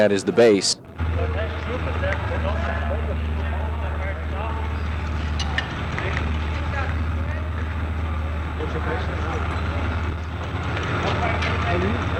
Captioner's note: background fabrication noise and inaudible dialogue